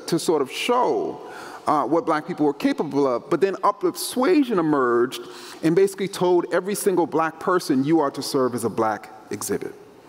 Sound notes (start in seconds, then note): none